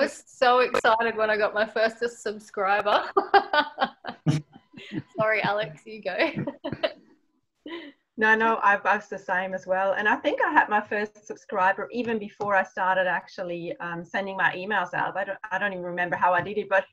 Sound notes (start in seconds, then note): 3.1 laughs